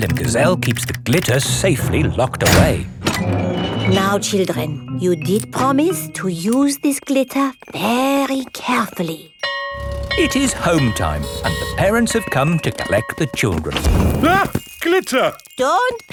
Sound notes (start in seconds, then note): 9.4 school bell ringing